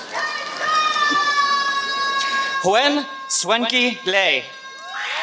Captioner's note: applause